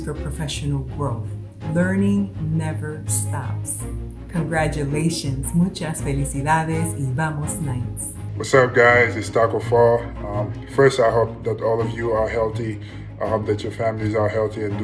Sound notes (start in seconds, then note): 6.0 speaking in foreign language